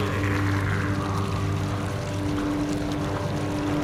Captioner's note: Lost Ghost noises